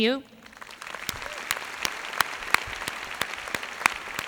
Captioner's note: applause